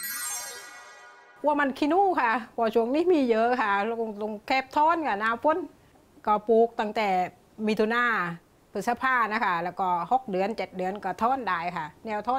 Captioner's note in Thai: ภาษาใต้